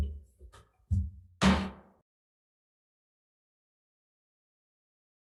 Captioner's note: gavel thumps